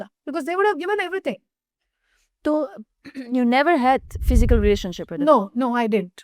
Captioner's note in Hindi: गला साफ़ करने की आवाज़